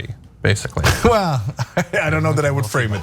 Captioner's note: laugh